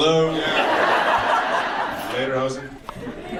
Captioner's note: audience laughs